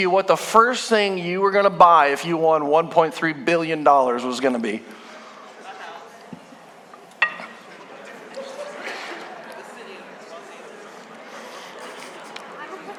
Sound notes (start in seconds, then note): 6.5 congregation chattering